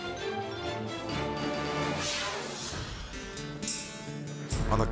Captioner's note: dramatic music continues; video swooshing